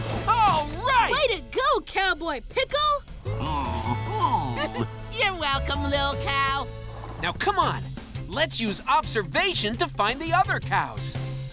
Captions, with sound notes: Alright! Way to go, Cowboy Pickle! [mooing] Ha-ha. You're welcome, lil' cow. Now, come on, let's use observation to find the other cows.